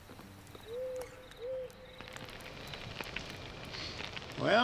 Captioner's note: animal hoots